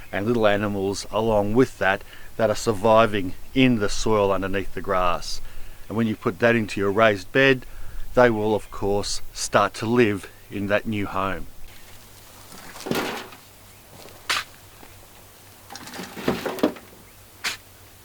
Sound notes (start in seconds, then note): 12.1 soil falls into wheelbarrow